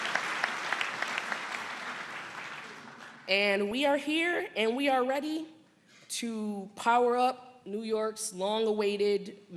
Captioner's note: applause